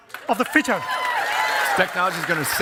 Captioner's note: cheering and applause